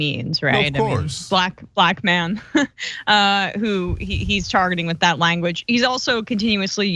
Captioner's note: laugh